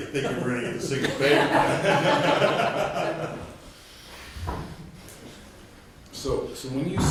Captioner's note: background laughter